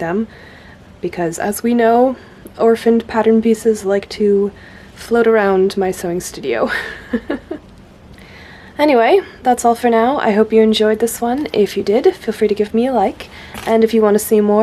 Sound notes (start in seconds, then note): 6.7 laughs